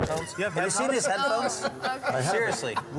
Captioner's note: laughter